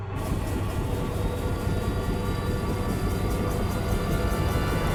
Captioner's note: machine powers up